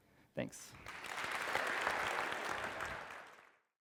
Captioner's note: applause